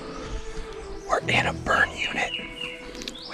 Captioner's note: whispering